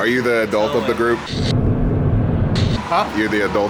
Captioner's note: static